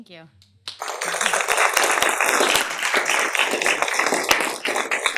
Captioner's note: applause